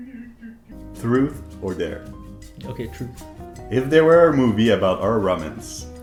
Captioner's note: none